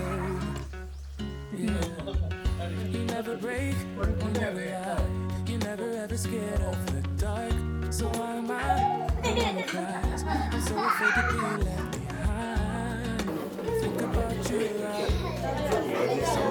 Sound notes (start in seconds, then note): 12.8 laugh